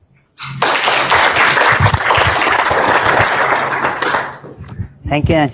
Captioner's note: applause